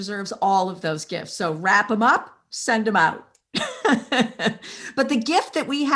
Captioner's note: laughs